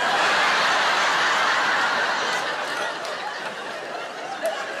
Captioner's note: audience laughing